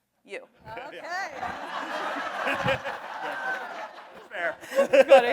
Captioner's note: audience laughs